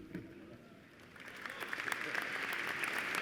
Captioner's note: applause